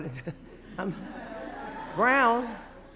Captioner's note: laughter